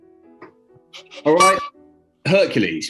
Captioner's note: honks horn